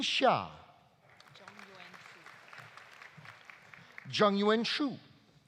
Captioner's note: audience applauding